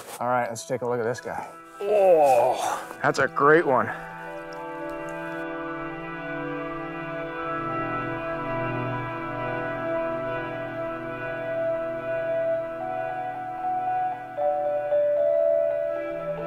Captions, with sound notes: - All right, let's take a look at this guy. (gasps) That's a great one. (ethereal music)